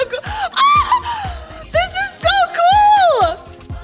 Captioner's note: squeals